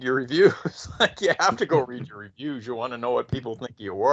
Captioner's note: laughing